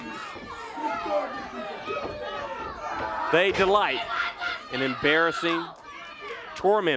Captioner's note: crowd cheers